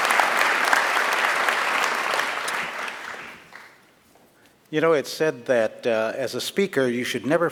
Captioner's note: applause